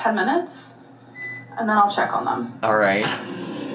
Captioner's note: machine beeping; machine whirring